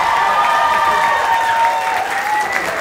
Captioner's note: applause